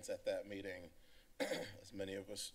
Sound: clears Throat

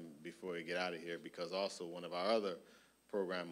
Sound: none

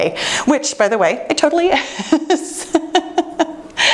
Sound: laughing

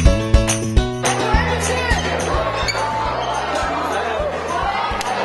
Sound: children chattering

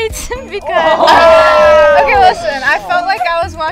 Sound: everyone exclaiming

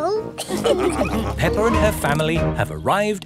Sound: all laughing

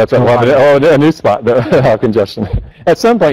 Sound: laughs

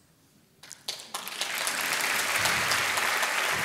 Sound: applause

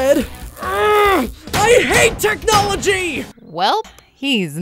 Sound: grunting

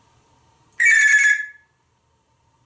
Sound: telephone sound

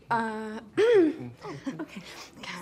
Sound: clears throat

